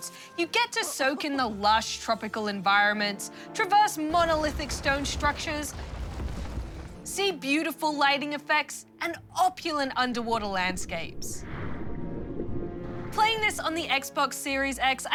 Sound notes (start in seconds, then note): none